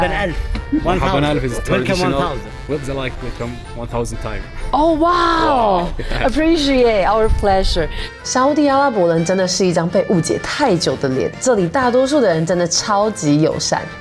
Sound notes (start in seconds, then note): 0.7 Arabic